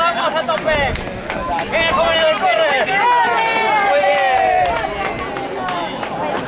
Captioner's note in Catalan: La gent anima